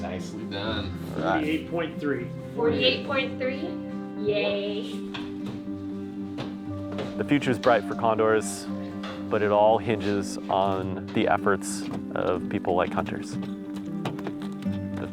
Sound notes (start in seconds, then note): 2.5 voice offscreen